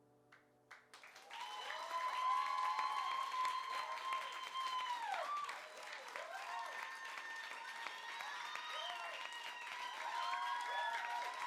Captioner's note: applause